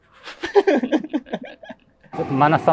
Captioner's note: laughing